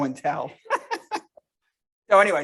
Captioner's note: laughing